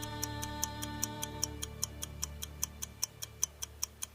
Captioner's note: clock ticks